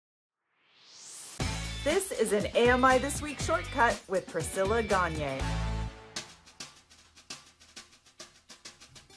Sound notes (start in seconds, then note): 0.5 swoosh